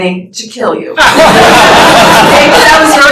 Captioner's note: laughter